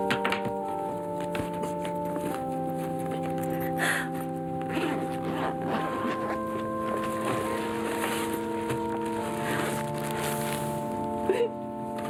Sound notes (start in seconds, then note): 3.4 Lana crying; 5.9 somber music